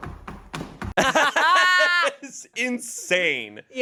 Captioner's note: everyone laughs